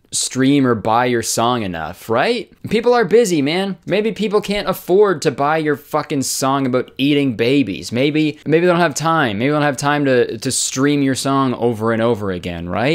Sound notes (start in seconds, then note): none